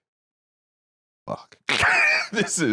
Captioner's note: laughs